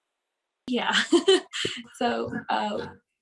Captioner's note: laughs